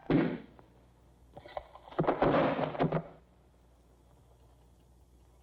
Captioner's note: body Falls To Floor